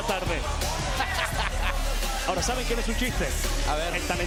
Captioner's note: laugh